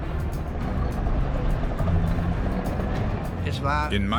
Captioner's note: tank engine roaring